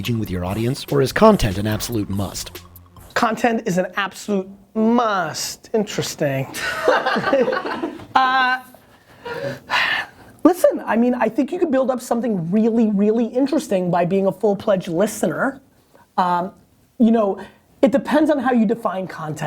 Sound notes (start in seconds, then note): 6.5 laughter